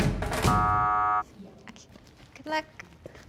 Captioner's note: buzzing